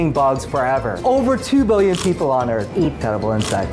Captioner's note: bug crunching; bugs crunching